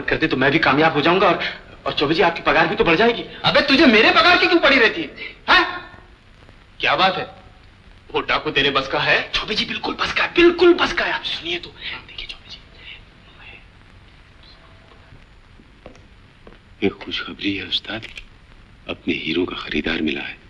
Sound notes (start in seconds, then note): 11.3 whispers